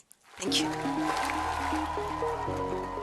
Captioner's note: applause